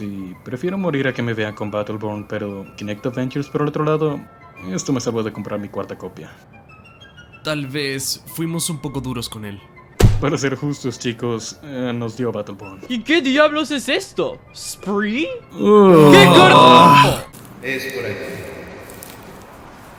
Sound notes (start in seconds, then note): 15.6 growls in disgust